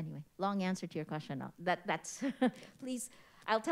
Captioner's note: chuckles